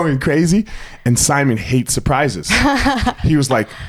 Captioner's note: laughs